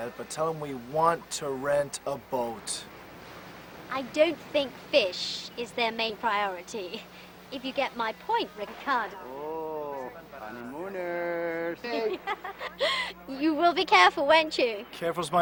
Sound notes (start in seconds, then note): 11.1 speaks in foreign language; 11.8 laughs